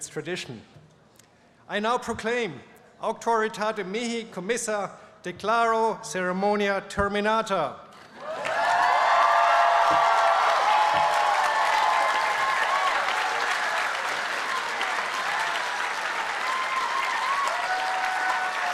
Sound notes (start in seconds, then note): 5.9 speaking latin; 11.2 applause and cheering